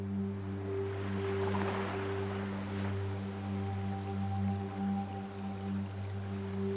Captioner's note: waves crashing; tense music continues